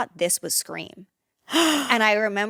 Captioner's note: gasps